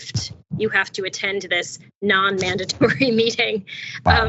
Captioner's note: laugh